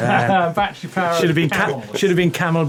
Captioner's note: laughing